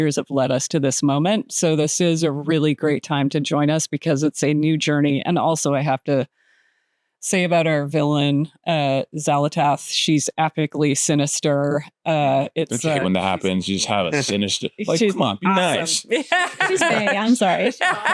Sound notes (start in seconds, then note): 14.8 laughing